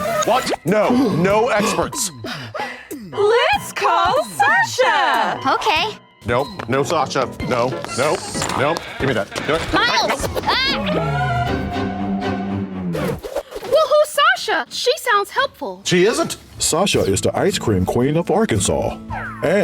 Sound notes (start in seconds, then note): 1.6 cast gasps; 6.3 footsteps; 11.5 dramatic tune plays